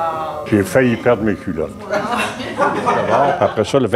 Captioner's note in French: rires